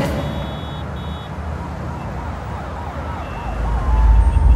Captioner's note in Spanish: Bullicio en la calle